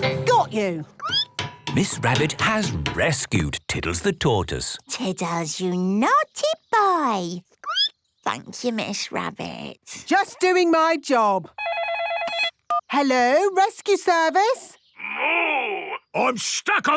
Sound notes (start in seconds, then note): 0.9 squeaking; 7.4 squeaking; 11.6 phone ringing